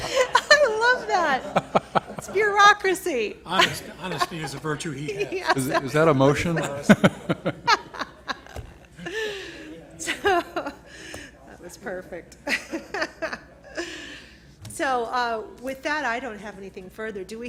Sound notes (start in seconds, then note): 0.0 laughter; 7.1 laughter